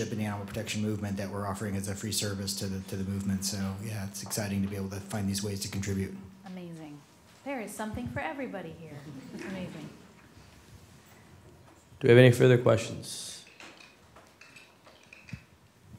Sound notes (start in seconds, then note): 9.8 laughter